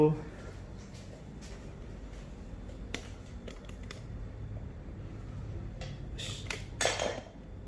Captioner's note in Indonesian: suara tripod; suara benda jatuh